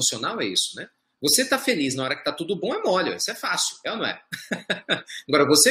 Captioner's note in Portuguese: Risos